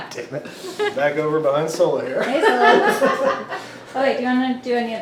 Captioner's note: laughs